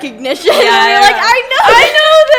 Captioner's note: laughs